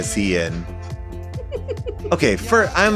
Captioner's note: laughs